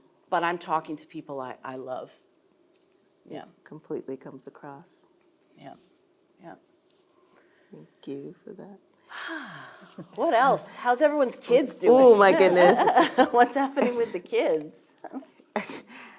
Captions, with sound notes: But I'm talking to people I love. Yeah. - Completely comes across. - Yep. Yep. - Thank you for that. - (sighing) What else? How's everyone's kids doing? - Oh my goodness. (chuckling) - What's happening with the kids?